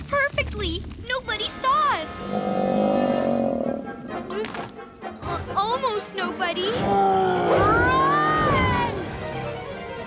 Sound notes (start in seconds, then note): 2.2 growl; 5.3 gulp; 7.8 growling